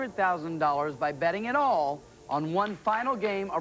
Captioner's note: none